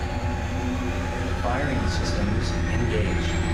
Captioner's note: computer voice